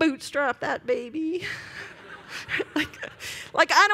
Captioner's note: laughter